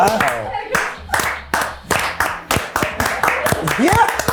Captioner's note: people laughing